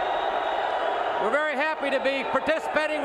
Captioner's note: crowd cheering